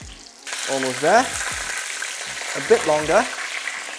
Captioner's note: sizzling sound